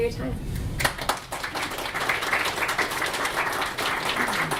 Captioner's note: audience applause